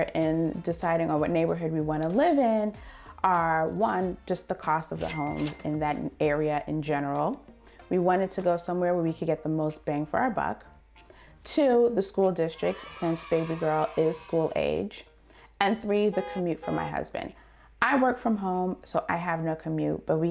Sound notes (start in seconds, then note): 5.0 cash register rings; 12.5 kids cheering; 16.0 car honking